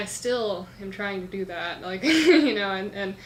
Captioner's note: laughs